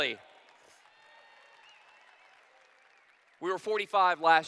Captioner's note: applause